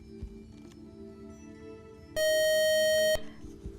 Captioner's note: buzzer